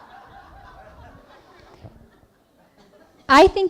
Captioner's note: laughing